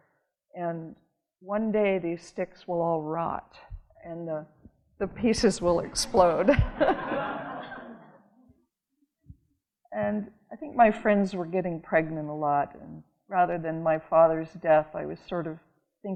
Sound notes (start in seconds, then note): 6.7 audience laughing